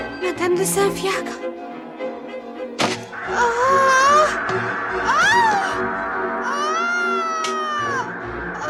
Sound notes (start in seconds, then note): 3.2 shoutings